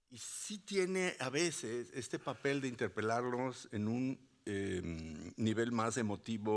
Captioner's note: speaking Spanish continues